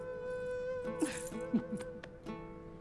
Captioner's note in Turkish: Gülme sesi